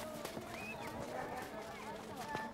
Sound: running footsteps

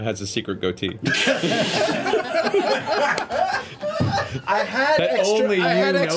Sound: all laugh

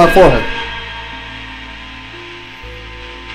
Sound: radio noise hissing; quizzical music; radio hissing continues

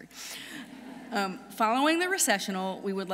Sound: audience laughing

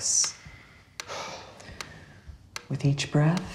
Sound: Josh exhales

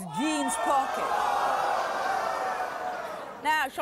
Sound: audience gasping

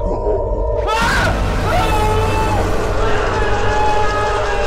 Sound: horrified screaming

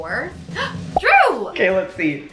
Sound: drum roll; gasps

